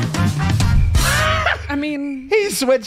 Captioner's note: laughs